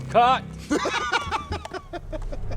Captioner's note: laughs; pensive music